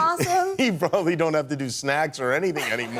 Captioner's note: laughter